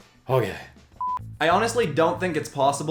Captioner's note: beep